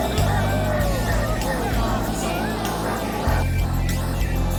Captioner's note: group chattering